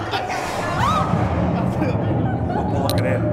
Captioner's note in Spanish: grita